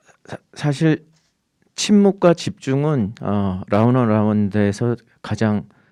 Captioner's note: speaking in Korean